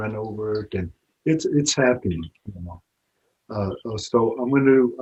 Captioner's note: speaking Blackfoot